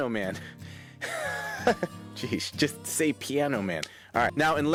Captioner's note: chuckles